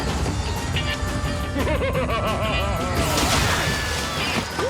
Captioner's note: evil laughter